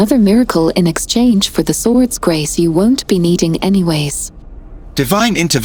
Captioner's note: laughs